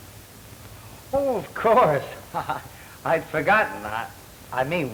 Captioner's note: chuckles